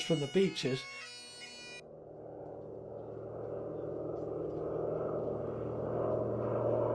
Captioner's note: plane engines revving; wind whipping